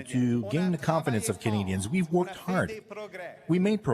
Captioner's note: speaking French